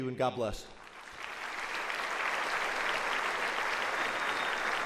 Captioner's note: audience applauds